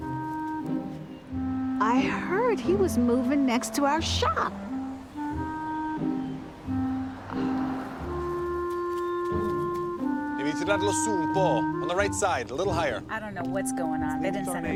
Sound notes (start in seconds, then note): 11.3 speaks italian